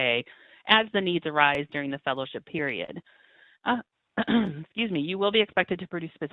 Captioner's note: coughing